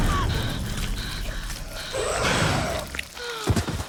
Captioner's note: groaning